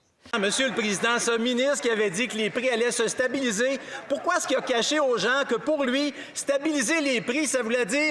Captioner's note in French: voix de l'interprète